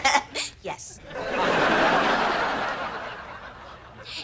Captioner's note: audience laughter